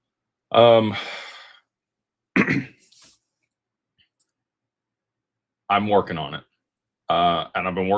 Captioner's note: sighs and gasps; clears throat